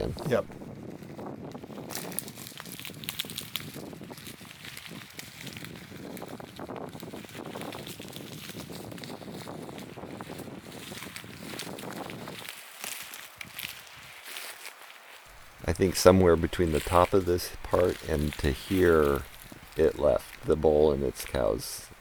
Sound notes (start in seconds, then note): 0.4 wind rustling tree tops; 1.9 crunching branches and cones from footsteps